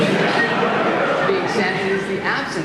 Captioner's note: laughter